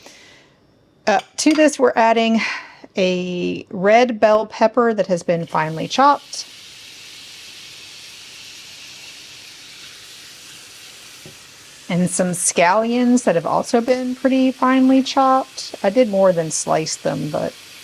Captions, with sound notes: Uh to this, we're adding [sighs and gasps] a red bell pepper that has been finely chopped and some scallions that have also been pretty finely chopped. I did more than slice them, but